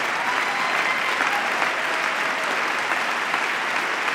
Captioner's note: applause